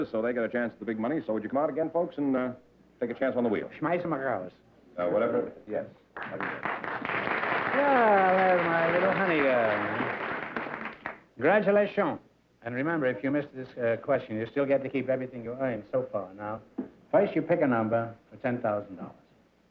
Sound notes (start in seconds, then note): 3.8 non-english; 6.1 applause